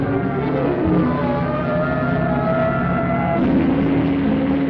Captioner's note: police siren alarming; engine rumbling